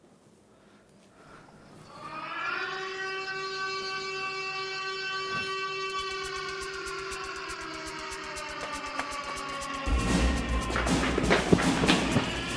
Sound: the siren screaming

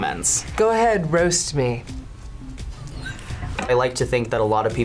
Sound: laughs

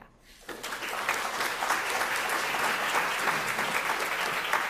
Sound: crowd clapping

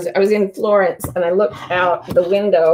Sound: painting thumps

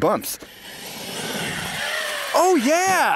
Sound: RC truck wheels spinning

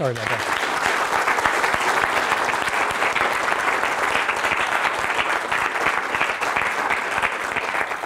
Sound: applause

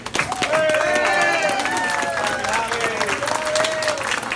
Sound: people clapping

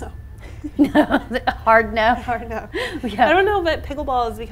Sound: laughs

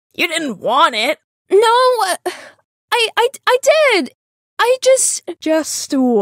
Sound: stammering

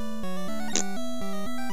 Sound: poot

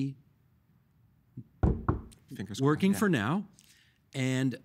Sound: knocking on wood

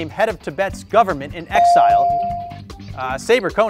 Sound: bell dings

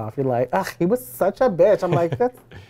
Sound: scoffs

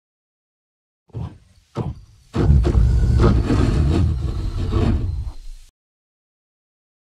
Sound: sound of monster

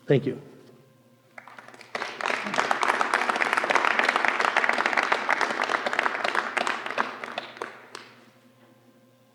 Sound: applause

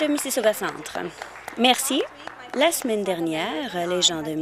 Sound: applause

